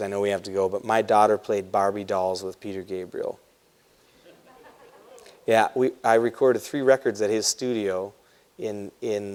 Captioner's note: laughter